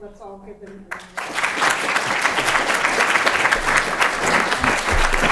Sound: applause

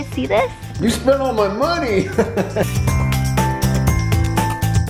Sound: laughing

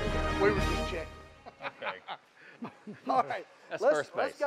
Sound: laughing

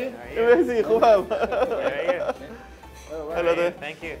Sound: laughs

